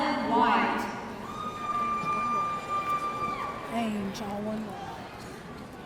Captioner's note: audience cheering